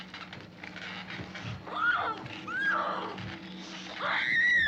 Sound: screaming

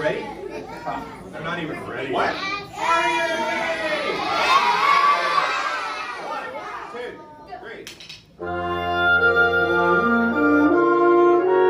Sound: students shout yes!

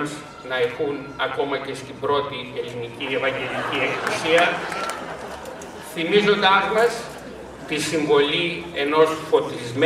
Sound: laughter

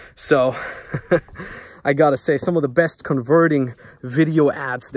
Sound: laughs

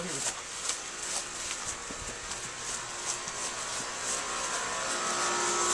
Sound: footsteps on grass

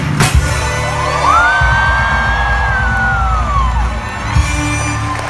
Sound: more high-pitched screams from yours truly

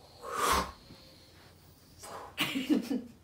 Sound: whooshing; chuckles

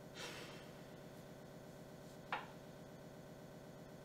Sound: Lillian sighs

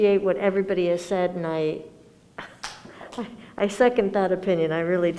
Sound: giggles

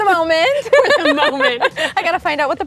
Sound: laughter

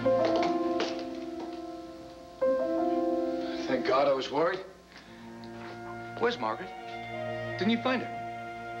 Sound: ftsteps

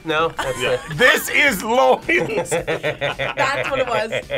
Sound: both laugh; laughs

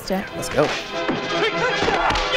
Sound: fighting noises

